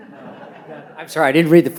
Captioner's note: audience laughs